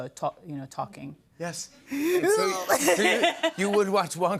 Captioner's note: laughs